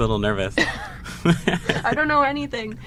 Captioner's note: laughing